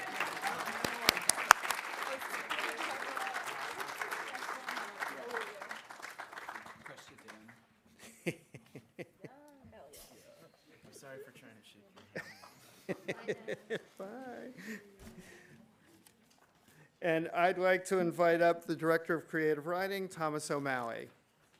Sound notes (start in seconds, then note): 0.0 audience applauding; 4.9 students chatting